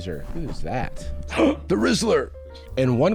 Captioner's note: gasps